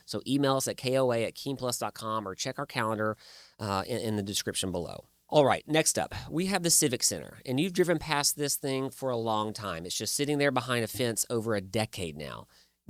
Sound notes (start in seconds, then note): none